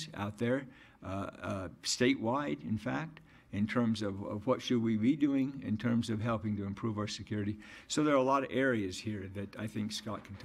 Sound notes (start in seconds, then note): none